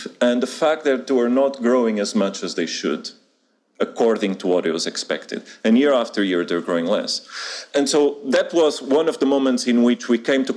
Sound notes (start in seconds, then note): none